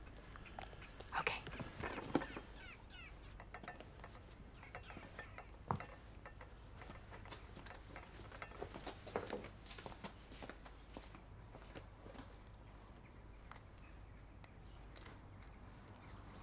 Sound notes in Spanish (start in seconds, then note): none